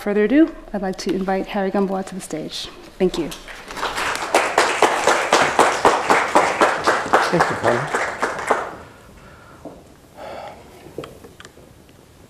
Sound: applause

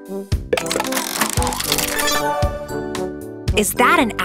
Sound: turning sound

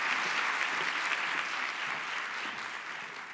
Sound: applause

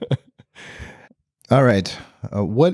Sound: laughing

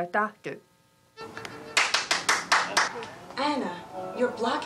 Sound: clapping

